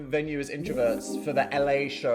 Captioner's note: graphic chiming